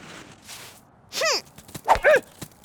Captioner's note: upset grunt; effort grunt